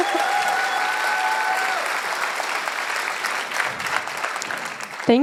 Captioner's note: laughs; cheers